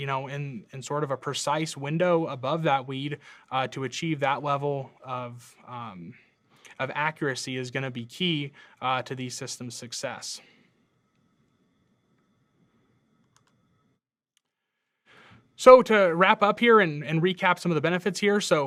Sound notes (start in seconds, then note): 13.2 computer mouse clicking